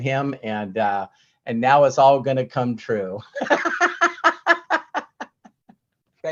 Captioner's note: laughs